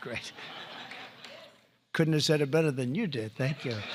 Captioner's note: laughter